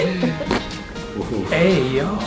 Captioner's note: patient laughing; cracking noise